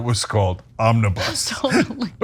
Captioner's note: laugh